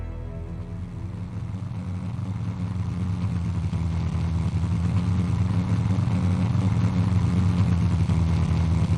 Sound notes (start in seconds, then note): 1.9 plane propeller whirring